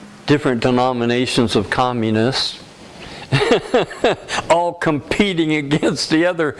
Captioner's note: laughter